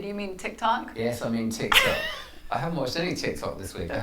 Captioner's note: laughs